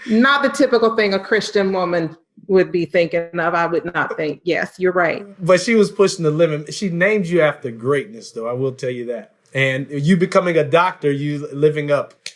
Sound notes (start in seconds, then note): 3.5 voice muffled